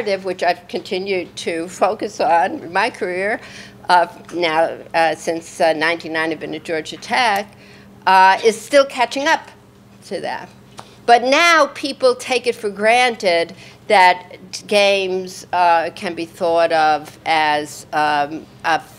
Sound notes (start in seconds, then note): none